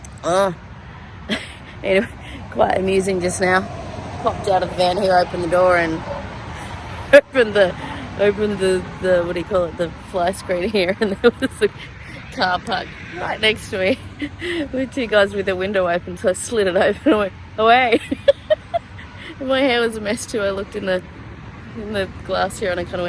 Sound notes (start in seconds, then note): 0.5 chuckles briefly; 5.4 laughs; 9.5 laughing; 18.7 cackling